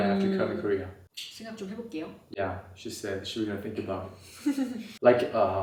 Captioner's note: Korean